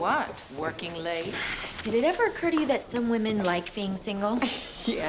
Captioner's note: sighs; scoffs